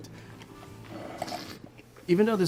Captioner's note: slurps and swishes wine